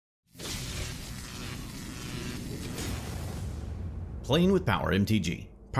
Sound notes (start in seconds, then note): 0.4 logo sizzling